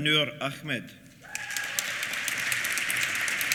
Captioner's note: applause